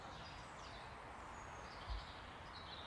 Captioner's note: street sounds